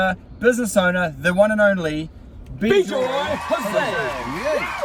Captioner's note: crowd cheering